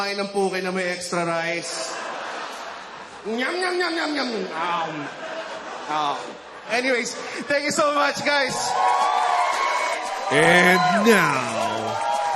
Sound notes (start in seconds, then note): 1.7 laughter; 8.4 cheering, applause